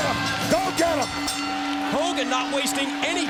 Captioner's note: bell ringing